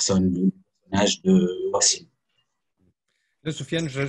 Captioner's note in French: coupure audio